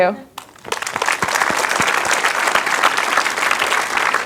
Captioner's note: audience applauding